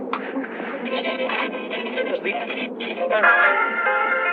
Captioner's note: radio stations skipping